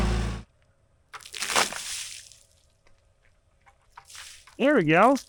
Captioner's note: water sloshing